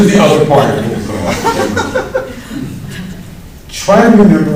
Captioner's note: laughs